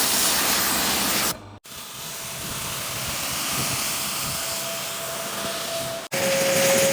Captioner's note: more jetwashing, floor of pool; more jetwashing, rinsing walls of pool; vacuuming or hovering last of dirt and water out of the pool